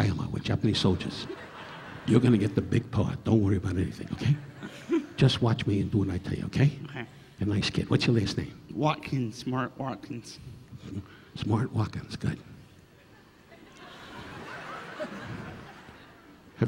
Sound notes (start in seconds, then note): 0.8 audience laughing; 4.2 chuckling; 13.0 audience laughing